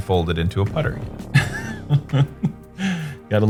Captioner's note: laughs